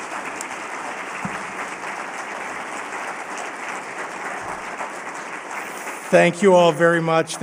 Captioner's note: applause